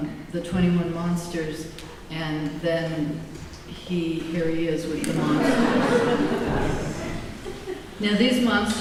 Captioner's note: laughter